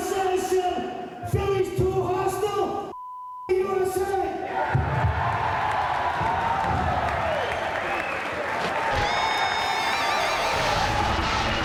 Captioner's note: crowd cheering